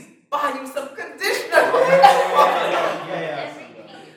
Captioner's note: laughter